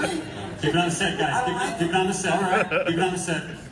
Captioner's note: laughter